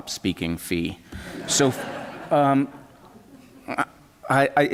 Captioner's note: laughter